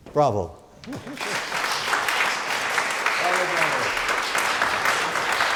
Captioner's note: audience applauds